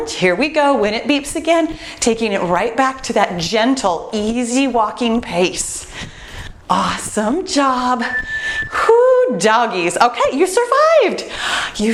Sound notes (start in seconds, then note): 7.9 timer beeps